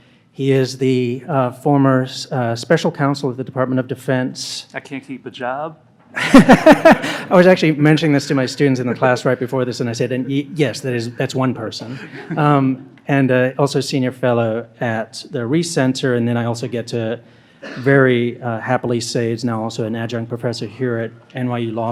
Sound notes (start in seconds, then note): 6.2 laughs